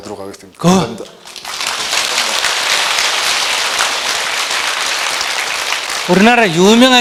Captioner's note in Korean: 청중 박수